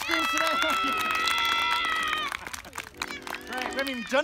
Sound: cheering and Clapping

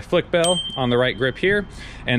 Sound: bell rings

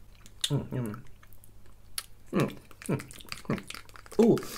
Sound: lots of Spitty Mouth Noises

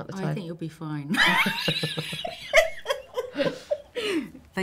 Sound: laughing

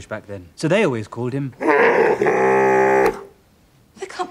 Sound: roaring sound

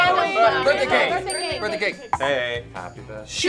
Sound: bell dings

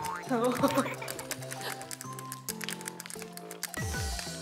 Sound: laughs when she jumps

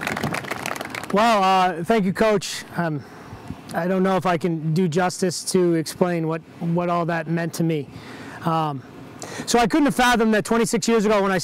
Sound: applause

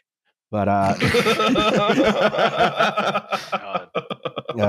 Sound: laughter

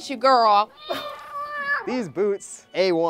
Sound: cat meows

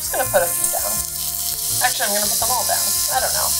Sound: waffle iron sizzling

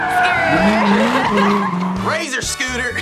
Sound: both laugh

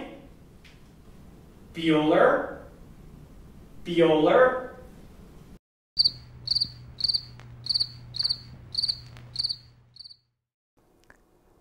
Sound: crickets chirping

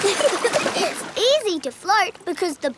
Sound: giggling

